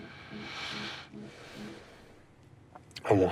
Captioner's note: deep breath